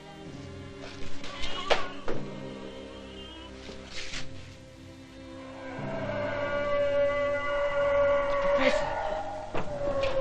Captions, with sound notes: (HOWLING) The professor!